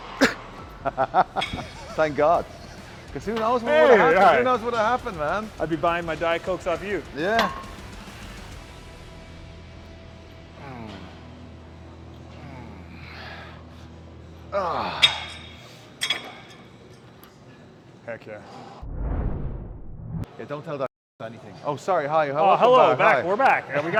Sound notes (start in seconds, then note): 0.1 laughing; 8.7 upbeat rock music; 16.0 metal clunking; 18.8 scene swooshing